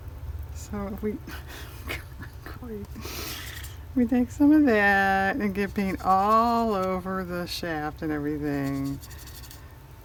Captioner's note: laughs